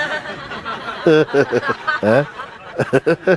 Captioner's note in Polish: śmiech